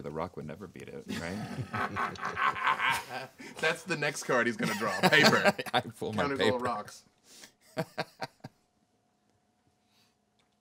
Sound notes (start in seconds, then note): 1.1 group laughing; 7.7 man laughing